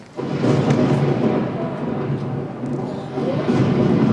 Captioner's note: thunder rumbles